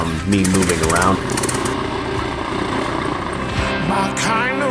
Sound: plane engine roaring

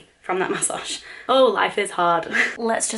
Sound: laughs

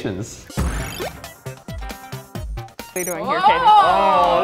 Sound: electronic music; beep

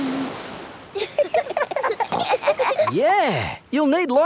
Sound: giggling

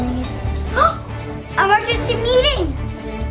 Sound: child gasping

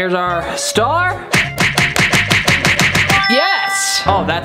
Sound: smacking noise

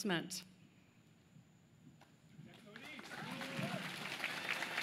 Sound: applause

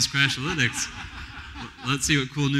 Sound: laughter

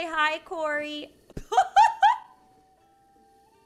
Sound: laughs

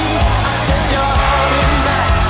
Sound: crowd cheers

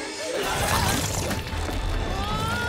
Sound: squirts

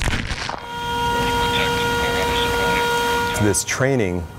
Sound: loud horn blowing

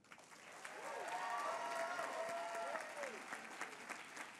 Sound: applause

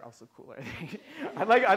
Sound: laughter

